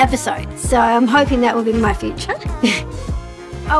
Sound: laughs

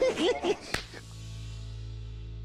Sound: laughing

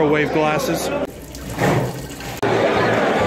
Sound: urinating

